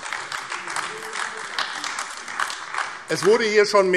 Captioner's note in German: Beifall AfD